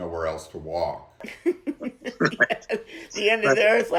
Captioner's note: laughs